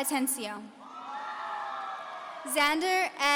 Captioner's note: audience cheering